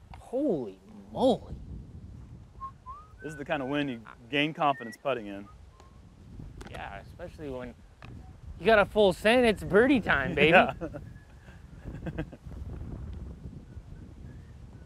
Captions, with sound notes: -Holy Moly. -This is the kind of wind you gain confidence putting in. -Yes. Especially when-- You got a full send, it's birdie time, baby. - [chuckles] Yes.